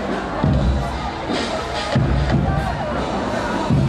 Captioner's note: babble of voices, drumbeats